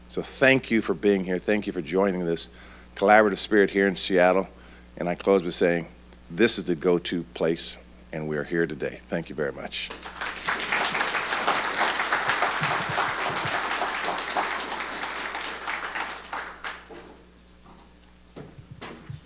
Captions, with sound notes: So thank you for being here. Thank you for joining this collaborative spirit here in Seattle. And I close by saying this is the go-to place, and we are here today. Thank you very much. (audience applauding)